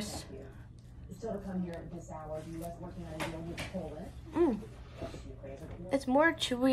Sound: nom nom nom

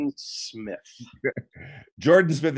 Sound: chuckling

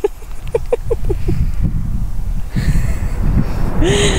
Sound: laughing

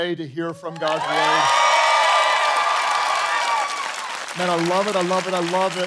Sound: congregation cheering

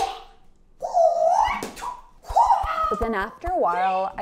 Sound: nunchuck whirls

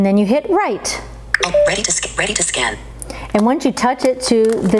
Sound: computerized Voice

